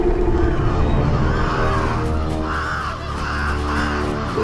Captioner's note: panicked squawking